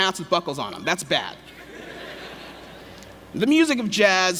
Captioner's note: laughter